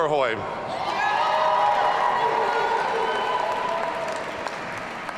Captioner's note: audience cheering